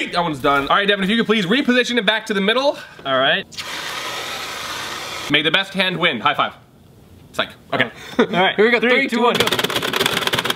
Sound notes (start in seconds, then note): 3.5 spray can hissing; 9.3 game clacking